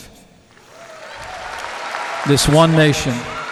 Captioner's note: applause